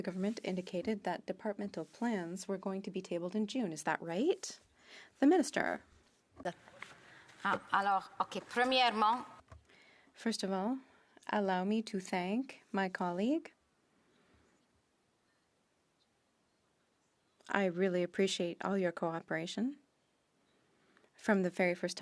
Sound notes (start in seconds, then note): 12.8 speaking French